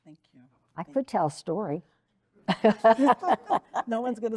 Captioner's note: laughs